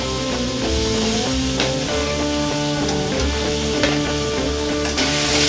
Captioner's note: pan simmering